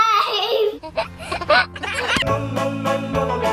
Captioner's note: giggling; upbeat music